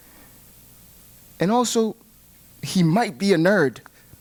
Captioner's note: none